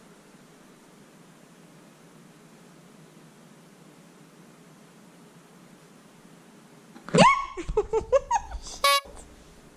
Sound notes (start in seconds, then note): 7.3 scream; 7.5 giggling